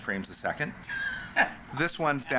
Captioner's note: chuckles